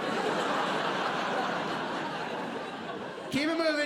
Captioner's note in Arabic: ضحك